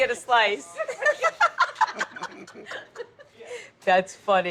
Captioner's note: people laughing